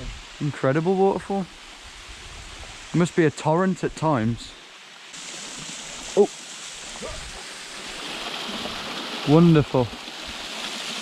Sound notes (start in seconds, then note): 6.9 grunting